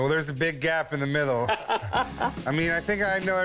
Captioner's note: laughs